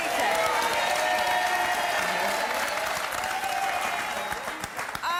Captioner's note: audience applauding